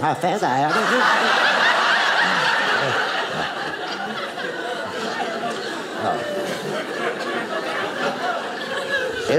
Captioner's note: audience laughing